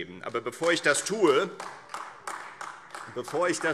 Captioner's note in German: Beifall - siehe Anlage